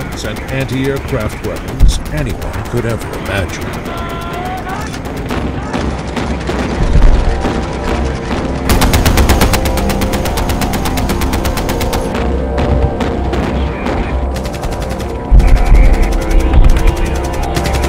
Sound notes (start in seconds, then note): 5.4 canon fires; 8.8 gunshot fires; 12.0 canon firing; 14.4 gunshot firing